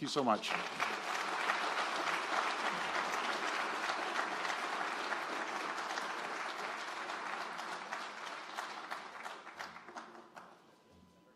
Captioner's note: applause